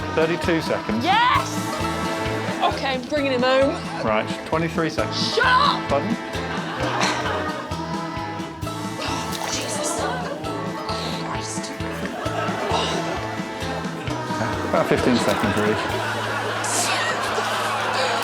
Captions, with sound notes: Shut up. -Thirty-two seconds. -Yes. OK, I'm bringing him home. -Right. Twenty-three seconds. -Shut up! Pardon? Oh, Jesus... Christ. [exhales] About 15 seconds, really.